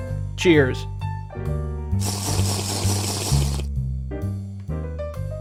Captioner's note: Minecraft drinking noises